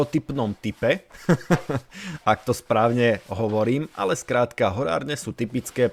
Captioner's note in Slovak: smiech